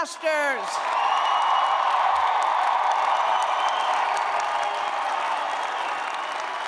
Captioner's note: cheers and applause